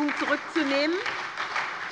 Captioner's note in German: Beifall bei der SPD